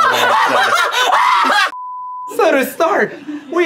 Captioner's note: laughing maniacally; test beeping